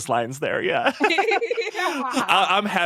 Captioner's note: laughing